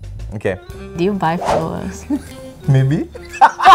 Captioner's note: giggles